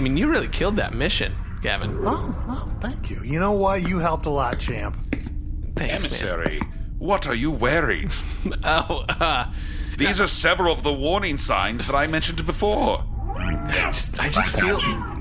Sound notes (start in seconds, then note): 8.4 laughing